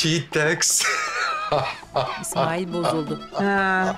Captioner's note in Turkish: Gülme sesi